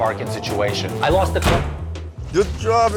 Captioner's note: door slamming